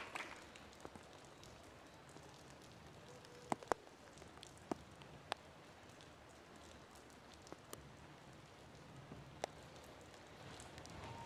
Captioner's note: applause